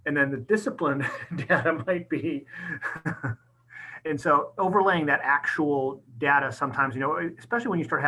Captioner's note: laughing